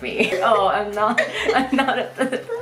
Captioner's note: laughing